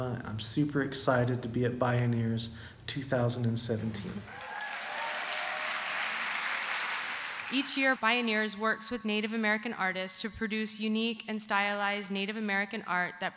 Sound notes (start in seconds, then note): 4.2 applause